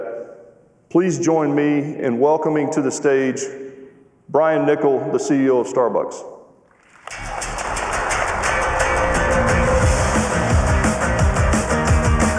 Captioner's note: cheers and applause